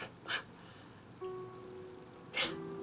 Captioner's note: exhales